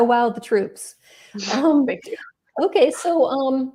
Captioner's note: chuckles